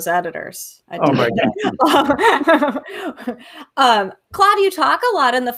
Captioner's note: laughing